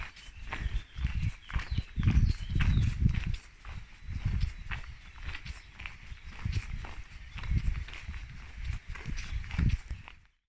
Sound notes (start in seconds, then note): 3.7 walking